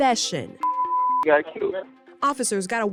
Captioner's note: beep